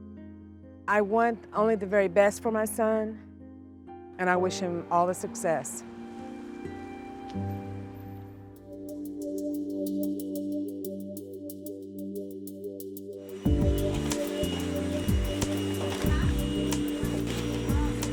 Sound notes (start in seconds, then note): 13.2 vacuum running